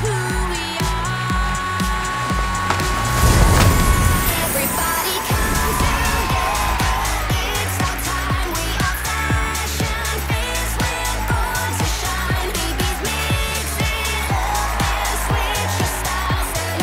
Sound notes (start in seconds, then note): 3.8 magical sounds